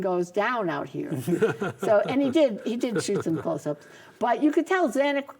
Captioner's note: laughs